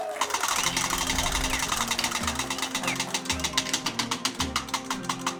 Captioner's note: cheering